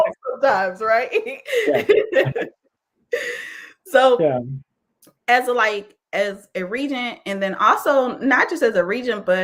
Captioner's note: laughs